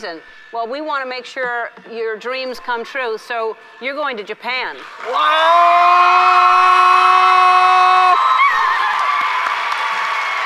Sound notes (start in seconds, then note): 4.9 audience cheers; 5.1 yells with surprise